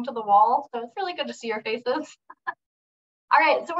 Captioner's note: laughs